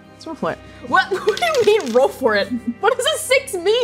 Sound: dice rolling; satisfied chuckling

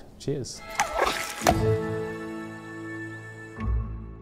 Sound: scurrying

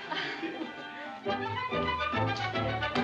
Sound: laughing

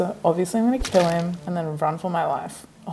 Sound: squelching

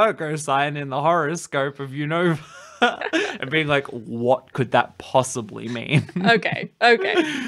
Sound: laughs

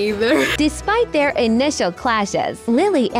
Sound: chuckles; AI Voice

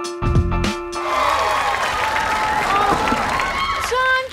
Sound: applause

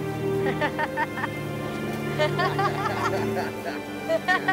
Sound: group laughs

